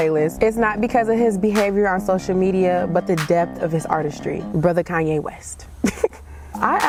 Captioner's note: laughs